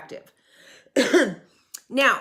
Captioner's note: cough